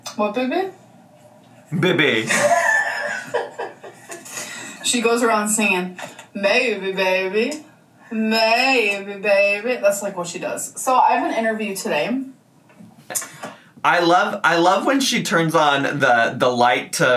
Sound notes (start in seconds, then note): 1.7 laughs